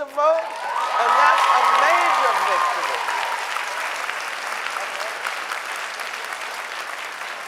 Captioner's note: audience cheering